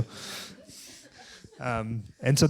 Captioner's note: laughter